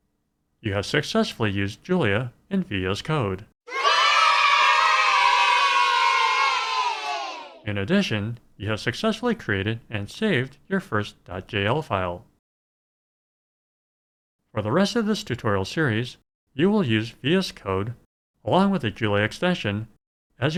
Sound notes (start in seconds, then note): 3.6 kids cheering